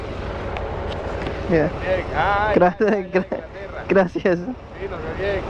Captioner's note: spanish I don't understand